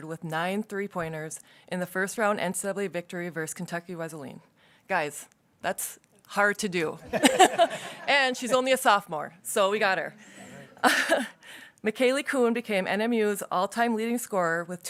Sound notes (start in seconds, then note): 7.0 people laughing; 10.4 laughs